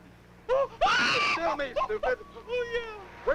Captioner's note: Timotheus screams